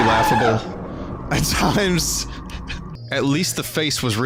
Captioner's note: laughing